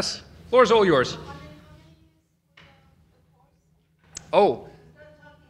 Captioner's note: female talking